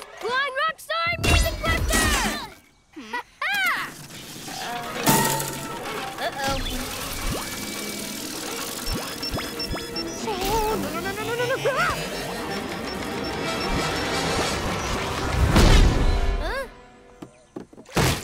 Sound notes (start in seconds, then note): 2.9 laughs